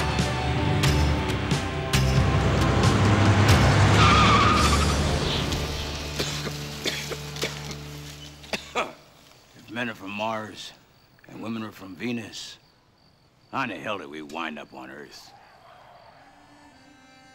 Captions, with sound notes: ( car engine starts ) ( coughing ) if men are from mars and women are from venus how in the hell did we wind up on earth?